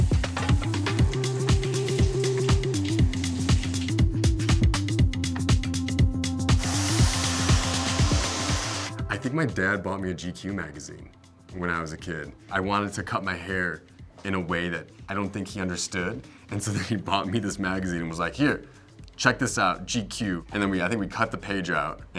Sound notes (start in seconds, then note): 0.3 upbeat percussive music; 6.6 blow dryer whirring